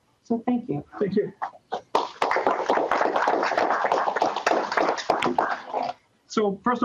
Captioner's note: applause